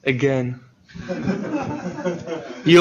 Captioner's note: laughter